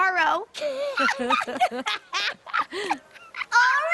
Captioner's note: both laughing